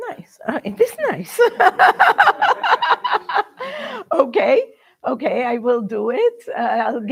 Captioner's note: laughs